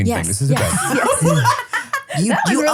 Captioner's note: everybody laughs